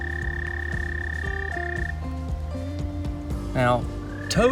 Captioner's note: frog trilling